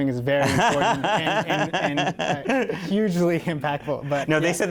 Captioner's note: laughter